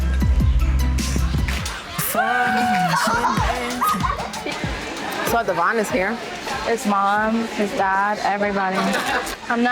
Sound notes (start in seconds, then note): 0.0 upbeat pop music; 0.7 girl giggling